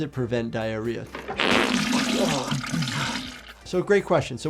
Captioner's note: fart squelching